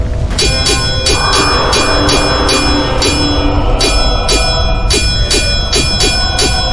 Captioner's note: swords clanging; dinosaur roaring